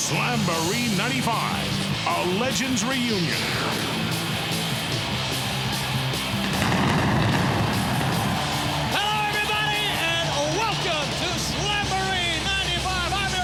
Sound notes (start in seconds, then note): 4.6 upbeat rock music; 6.4 fireworks popping; 6.7 crowd cheering